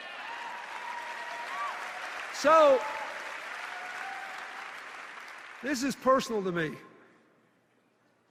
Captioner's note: cheers and applause